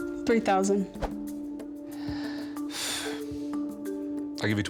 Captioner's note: breathes deeply